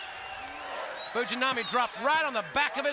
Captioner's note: crowd cheering